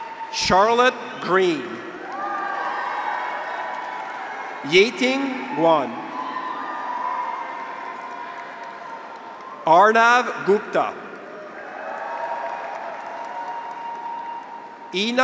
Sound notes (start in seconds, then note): 0.0 audience applauds; 0.0 graduates cheer; 2.0 audience applauds; 2.1 graduates cheer; 6.0 audience applauds; 6.4 graduates cheer; 10.8 audience applauds; 11.5 graduates cheer